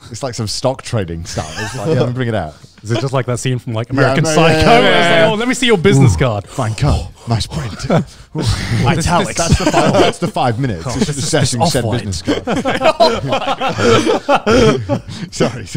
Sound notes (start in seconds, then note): 5.8 group chattering; 12.3 all laughing